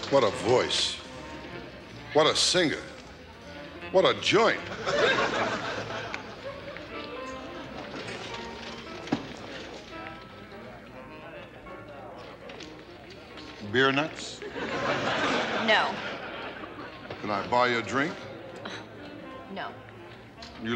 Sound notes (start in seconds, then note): 4.6 audience laughs; 14.4 audience laughs